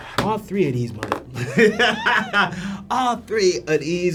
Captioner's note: laughs